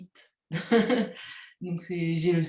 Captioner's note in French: rires